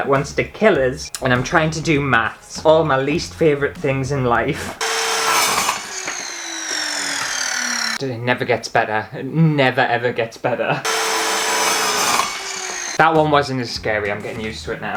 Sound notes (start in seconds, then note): 4.3 loud Scary Power Saw Sounds